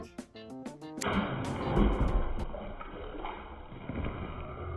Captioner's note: water splashes